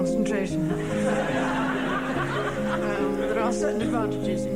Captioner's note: audience laughing